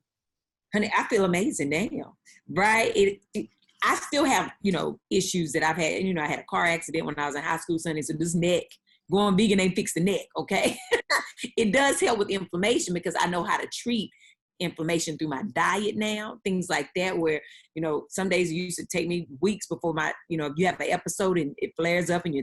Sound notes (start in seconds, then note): 11.1 laughing